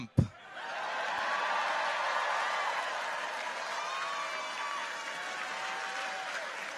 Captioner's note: audience cheers; people applaud